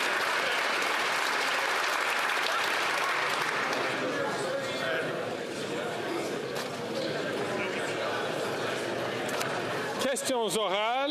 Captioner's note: applause